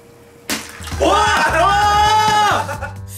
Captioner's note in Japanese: 叫び